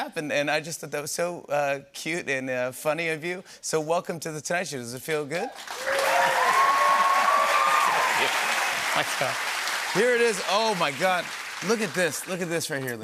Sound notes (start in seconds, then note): 5.6 cheers and applause